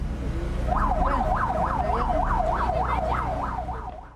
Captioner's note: sirens wailing